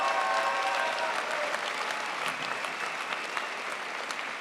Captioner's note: crowd applauds